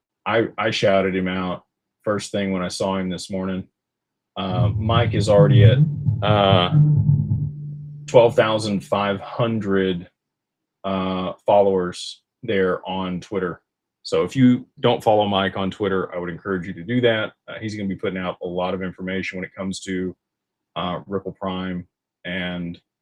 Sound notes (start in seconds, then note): none